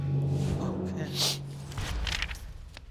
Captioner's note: sniffling